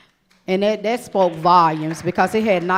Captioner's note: audience applauding